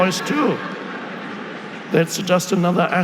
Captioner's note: audience laughing